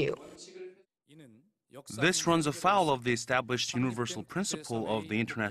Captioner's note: Korean